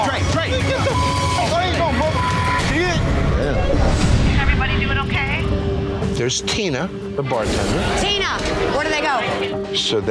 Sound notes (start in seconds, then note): 0.6 beeping; 1.2 shouting